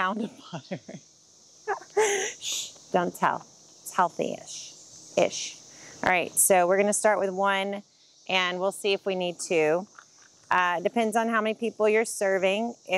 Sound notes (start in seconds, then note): 1.7 laughing